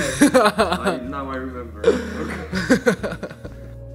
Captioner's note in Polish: śmiech